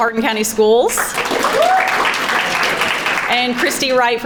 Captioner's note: crowd applauding